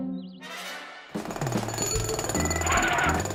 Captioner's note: jackhammering